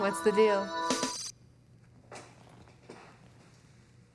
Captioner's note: beeping